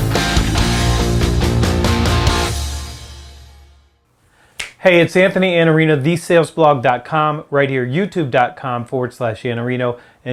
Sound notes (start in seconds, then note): 4.6 snapping